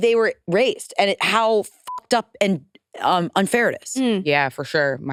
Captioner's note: beep